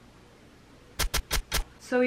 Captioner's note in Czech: 3x zvuk bodnutí